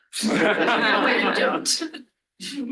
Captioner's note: laughter